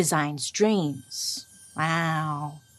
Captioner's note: bright tinkling